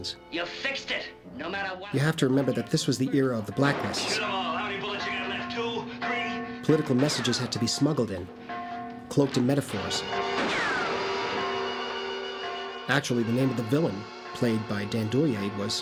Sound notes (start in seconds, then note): 10.1 bell Tolling; 10.3 gunshot